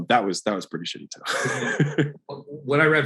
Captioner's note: Alex laughs